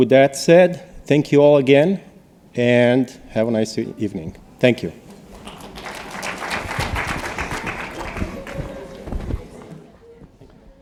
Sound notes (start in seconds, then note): 5.1 applause